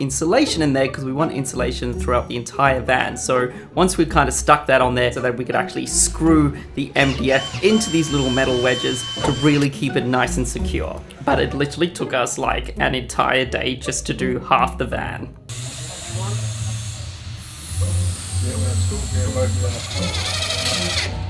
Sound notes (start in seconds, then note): 15.5 drill whirs